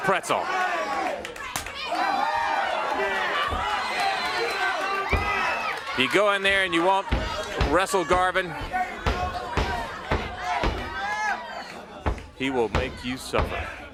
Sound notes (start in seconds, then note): 4.9 crowd chatter